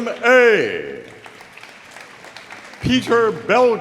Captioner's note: audience applauding